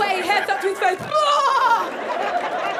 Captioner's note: yells